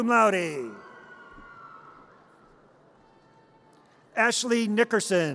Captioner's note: audience cheers